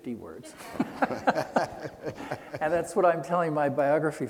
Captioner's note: laughing